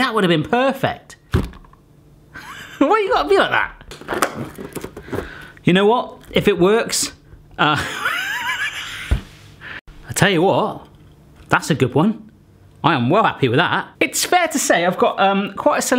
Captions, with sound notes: See, that would have been perfect! Why you gotta be like that? You know what, if it works-- (laughing) I'll tell you what, that's a good one. I am well happy with that! It's fair to say I've got